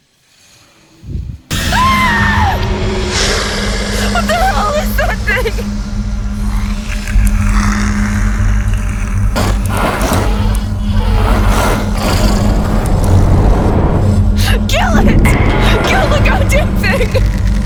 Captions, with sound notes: (Sarah screams) What the hell is that thing? (eerie music) (eerie music) (mechanical whirring) (eerie music) Kill it! Kill the goddamn thing!